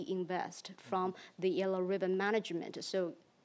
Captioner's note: speaks in foreign language